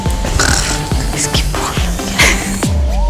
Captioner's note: Growling